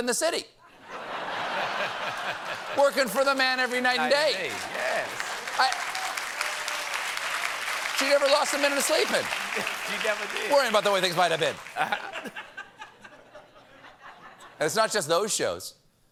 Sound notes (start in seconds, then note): 3.3 laughter